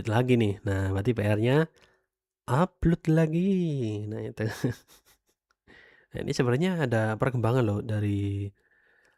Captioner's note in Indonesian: tertawa